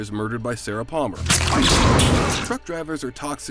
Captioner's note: squelching